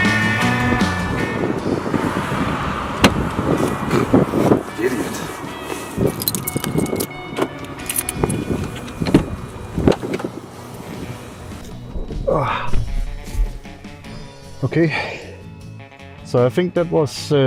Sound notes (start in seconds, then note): 5.6 keys rattling; 7.5 car unlocks